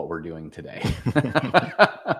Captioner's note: laughter